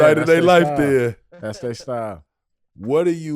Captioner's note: Rel chuckles